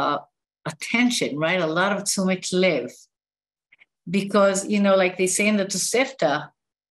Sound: non-english speech

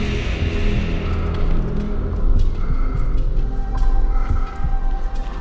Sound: muffled breathing

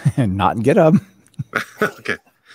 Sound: laughing

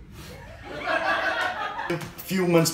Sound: laughter

